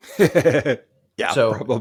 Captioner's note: laughing